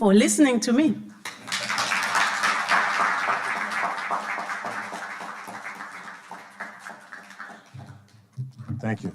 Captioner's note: audience applauding